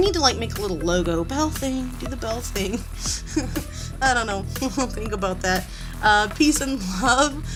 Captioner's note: laughs